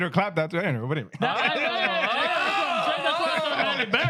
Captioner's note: men Laughing